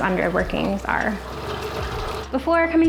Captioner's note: rollers spinning